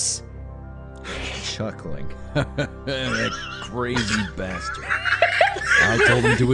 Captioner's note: chuckling